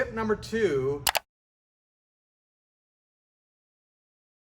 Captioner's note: switch clicking